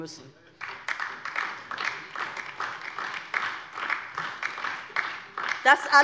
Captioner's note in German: Beifall DIE LINKE und vereinzelt SPD